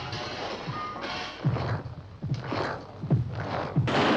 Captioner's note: estrondo de tiros